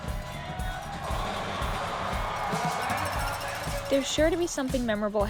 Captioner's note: audience cheers